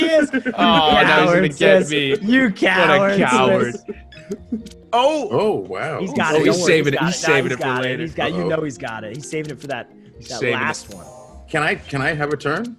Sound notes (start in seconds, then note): 5.3 laugh